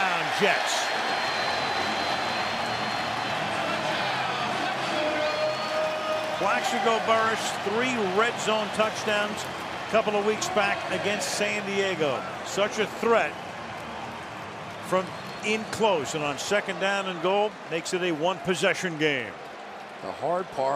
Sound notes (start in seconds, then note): 1.2 cheering; 4.0 pa announcement